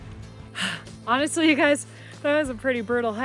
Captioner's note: huffs